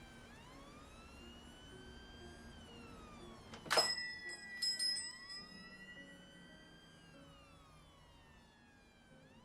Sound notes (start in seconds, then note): 3.6 door bell jingles; 5.2 sirens continue whining